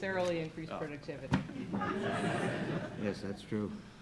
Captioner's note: audience laughs